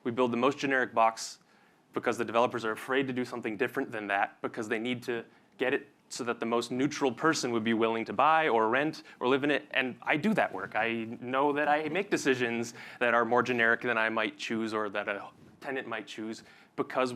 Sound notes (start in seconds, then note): none